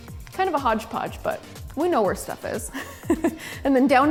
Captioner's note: laughs